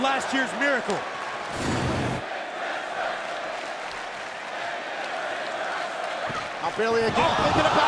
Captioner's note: crowd cheering